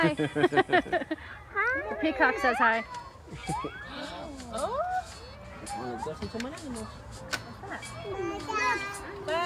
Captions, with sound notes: hi! *laughing* the peacock says hi! now lets go look at some more animals dog dog!